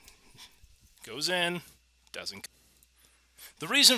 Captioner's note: audio cut